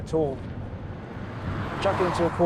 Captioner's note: car roaring